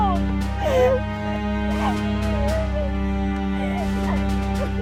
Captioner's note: sobs